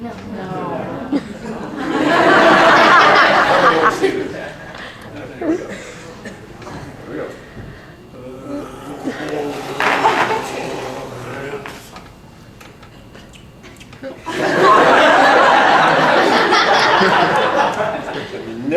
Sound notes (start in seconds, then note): 3.2 gargles the liquid nitrogen and makes gargling sounds; 11.9 lots and lots of laughter from the audience